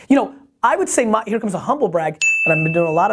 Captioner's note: bells rings